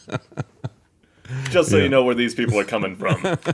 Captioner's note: laughter